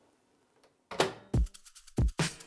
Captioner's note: microwave door popping shut; upbeat music